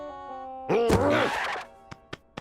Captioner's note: grunts